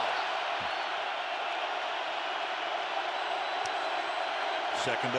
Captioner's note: cheering